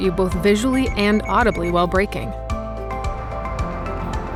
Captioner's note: beeping